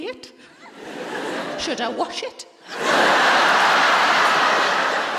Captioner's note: laughter